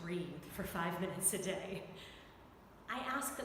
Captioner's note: chuckling